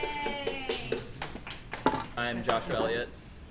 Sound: applause

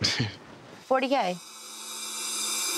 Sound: chuckles

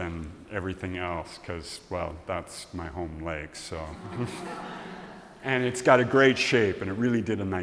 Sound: laughs

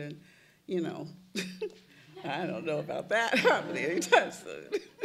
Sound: laughs

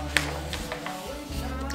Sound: paper rustling

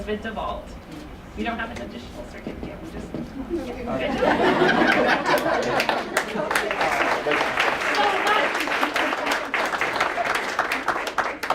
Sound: applause

